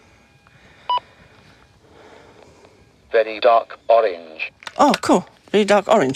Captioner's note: beep!